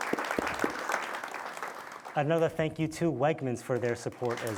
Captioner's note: audience applauding